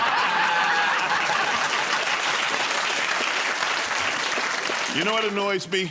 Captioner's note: laughter